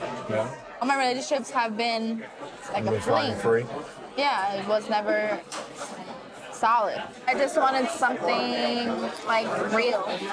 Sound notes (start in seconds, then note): none